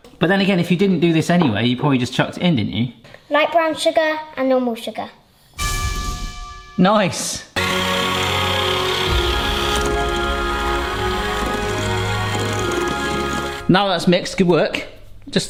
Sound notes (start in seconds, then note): 5.8 bell rings; 7.5 heavenly music; 7.6 mixer clatters